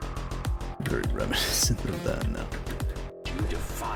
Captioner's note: laughs